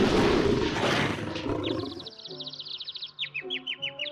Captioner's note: birds chirping